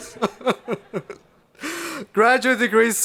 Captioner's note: laughing